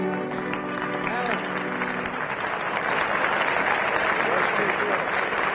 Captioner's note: audience applauding